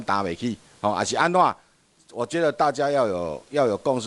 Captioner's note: minnan dialect